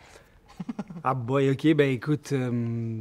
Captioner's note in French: rires